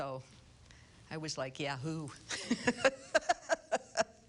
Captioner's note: laughs